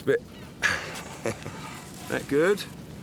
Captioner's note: laughs